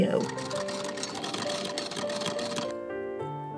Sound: antique sewing machine working away; scissors snipping

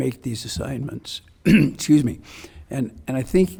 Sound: coughs

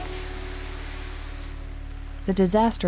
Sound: heavy rain

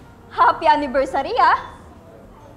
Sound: sarcastically

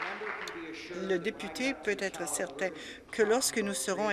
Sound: applause

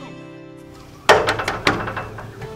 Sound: knocking on the door

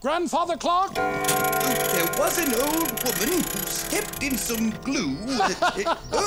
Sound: chiming

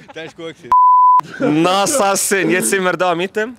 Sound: Turkish

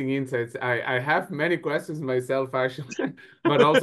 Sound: laughs

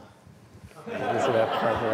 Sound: laughter

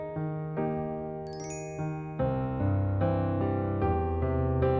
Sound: bell chimes

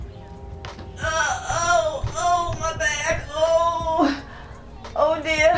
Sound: cries out in pain

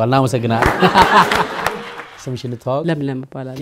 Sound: applause

